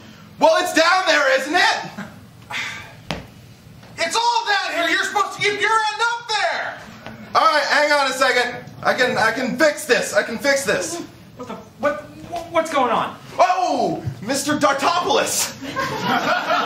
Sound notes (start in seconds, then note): 2.5 sigh; 15.6 laughter